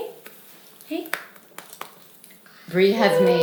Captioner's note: hand patting